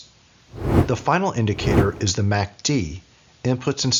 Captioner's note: whooshing